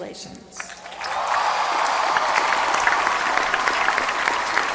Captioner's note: applause